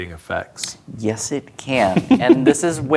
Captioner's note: laughing